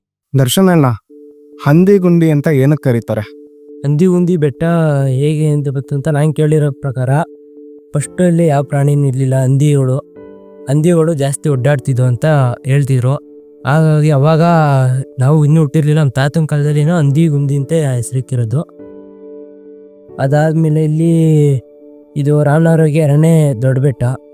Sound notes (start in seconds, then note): 1.5 in Kannada